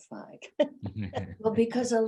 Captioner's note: laughing